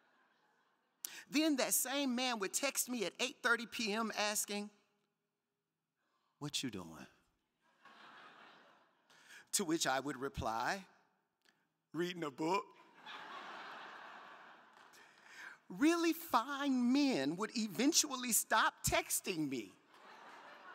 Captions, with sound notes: Then that same man would text me at 8:30 PM asking, what you doing? To which I would reply reading a book. (crowd laughing) Really fine men would eventually stop texting me saying,